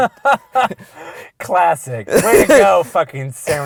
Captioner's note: laughter; voiceover